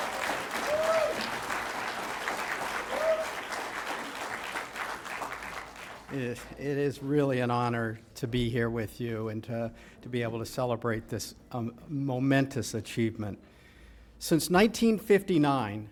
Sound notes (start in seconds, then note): 5.8 applause